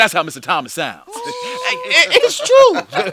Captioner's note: laughter